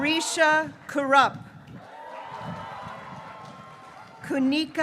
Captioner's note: graduates cheering